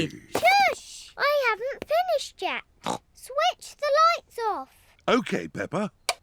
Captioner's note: snorts